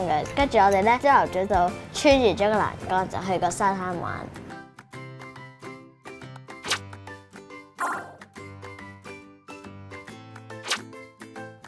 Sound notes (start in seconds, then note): 6.5 swishing sound; 7.7 bubbling sound; 10.6 swishing sound